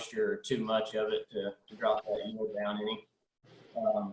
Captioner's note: audio is choppy